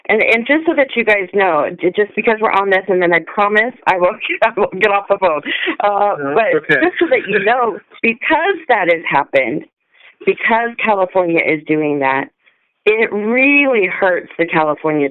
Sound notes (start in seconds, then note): 6.6 chuckle